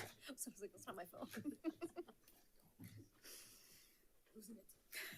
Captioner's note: board members laughing